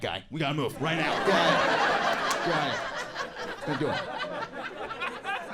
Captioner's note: audience laughs